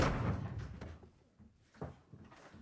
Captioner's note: door slams shut